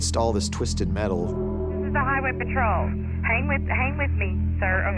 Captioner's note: on phone